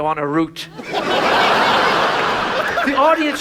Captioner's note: audience laughs